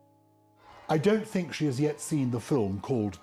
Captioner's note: voiceover